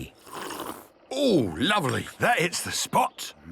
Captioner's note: sipping